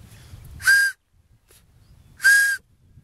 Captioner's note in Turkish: Tiz ve yüksek düdük sesi